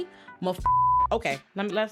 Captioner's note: beep